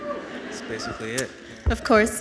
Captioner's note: audience cheers